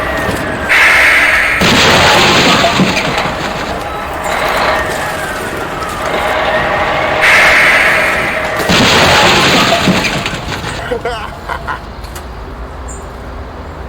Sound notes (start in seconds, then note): 1.6 car rumbling; 4.0 machinery beeping; 10.7 Mario laughing